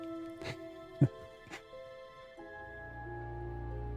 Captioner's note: chuckles